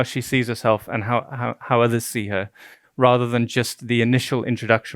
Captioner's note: stuttering